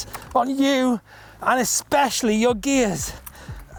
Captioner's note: groans